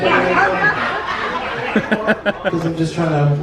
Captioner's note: audience laughs